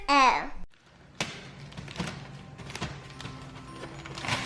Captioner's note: wrapper crunching; graceful music